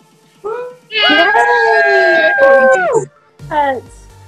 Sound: cheering

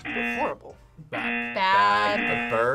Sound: buzzer rings

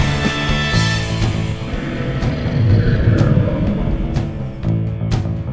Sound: snarl

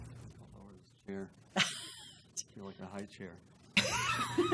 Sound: laugh

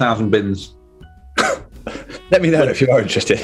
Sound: chuckles

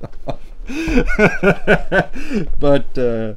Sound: laughs

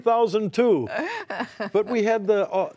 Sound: laughter

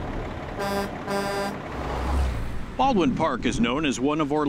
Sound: truck horn

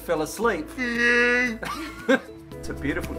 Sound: laughter

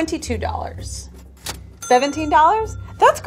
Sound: cash register dings

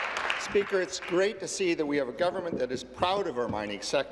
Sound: applause

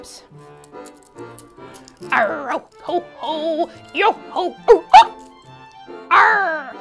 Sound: playful music; hiccups

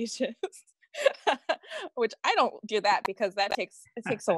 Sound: laughs

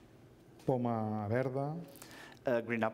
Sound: speaking catalan

